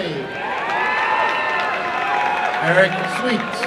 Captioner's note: applause and cheering